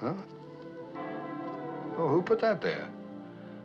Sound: bell Tolls

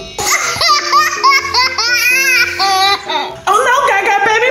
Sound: laughing

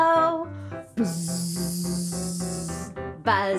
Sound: buzzing

